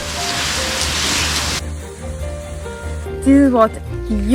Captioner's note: heavy rain